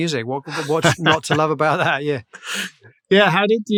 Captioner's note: laughter